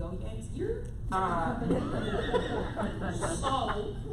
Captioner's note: laughter